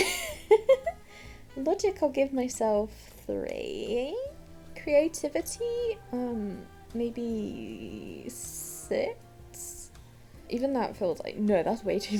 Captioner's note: laughs